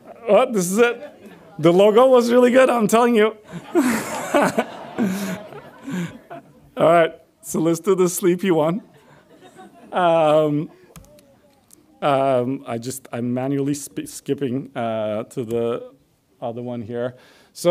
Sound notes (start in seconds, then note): 3.4 audience laughs